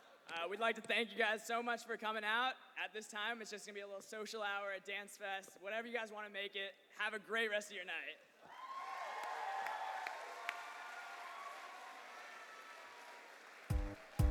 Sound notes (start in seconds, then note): 8.4 cheers and applause